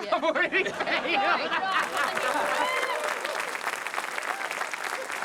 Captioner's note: cheering, applause